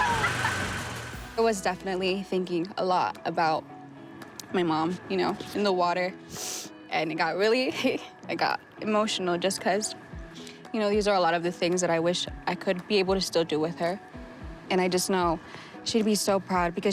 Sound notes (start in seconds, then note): 0.0 laughing; 6.3 sniffles